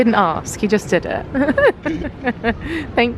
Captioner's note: giggles